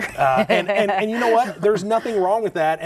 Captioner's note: laughing